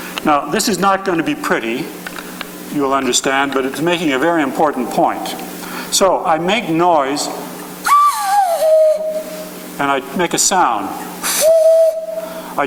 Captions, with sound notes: Now, this is not gonna be pretty, you will understand, but it's making a very important point. So I make noise (whistling) and I make a sound. (whistling)